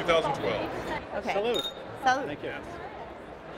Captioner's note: clink